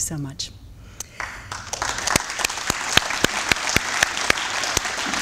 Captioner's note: applause